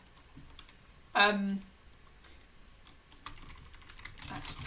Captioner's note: keyboard clicking